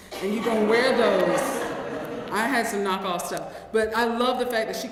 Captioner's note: laughs